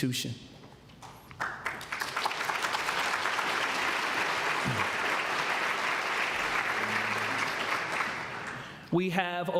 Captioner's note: applause